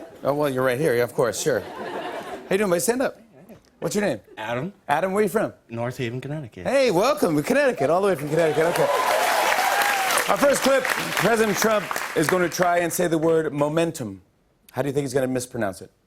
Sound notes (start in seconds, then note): 8.2 cheers and applause